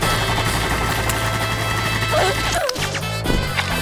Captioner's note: gunfire